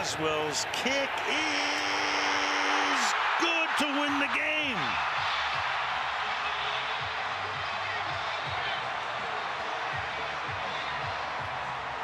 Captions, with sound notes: And Boswell's kick is good to win the game. [crowd cheering]